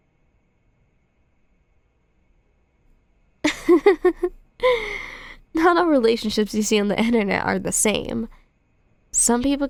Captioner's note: soft laugh